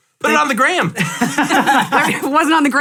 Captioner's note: all laugh